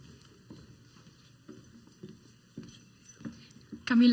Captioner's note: high heeled footsteps walking onto the stage